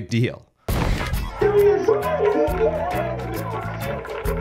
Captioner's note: muffled cheering